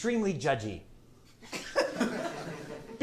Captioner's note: laughter